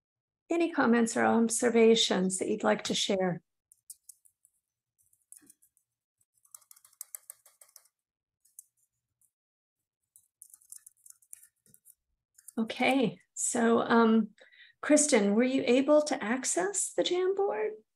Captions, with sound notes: Any comments or observations that you would like to share? [ No response ] Okay. Kristin, were you able to access the Jamboard?